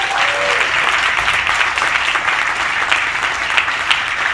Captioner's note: audience applauding